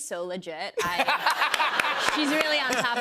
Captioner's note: laughter